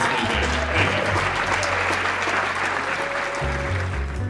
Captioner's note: crowd applauding